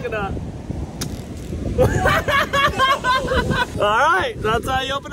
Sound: everyone laughing

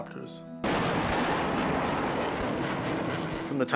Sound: cacophony of explosions

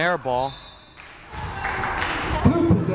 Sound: whistle blowing

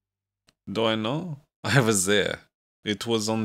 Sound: Grandmaster Henrik chuckles

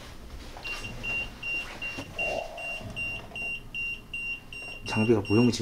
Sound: beeping

